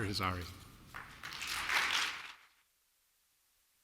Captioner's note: applause